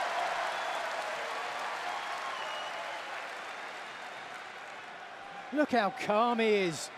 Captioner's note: crowd cheering